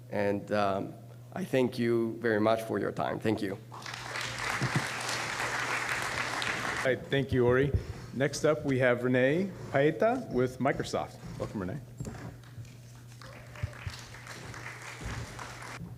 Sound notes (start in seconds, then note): 3.7 applause; 13.1 applause